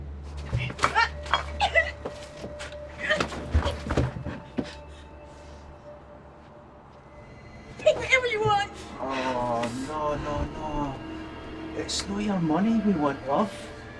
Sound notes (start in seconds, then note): 0.6 crying